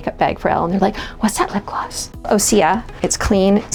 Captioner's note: gasping